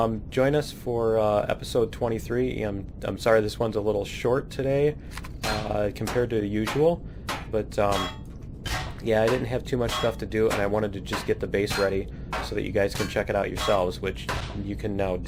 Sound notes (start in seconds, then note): 7.9 pinging